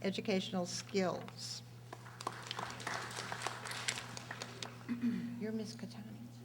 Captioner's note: audience applauding